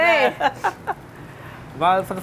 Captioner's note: chef laughs